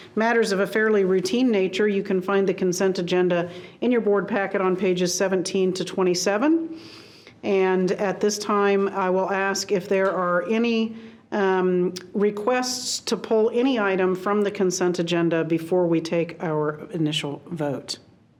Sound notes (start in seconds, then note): none